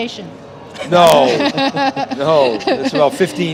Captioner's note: laughter